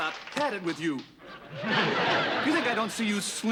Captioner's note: laughter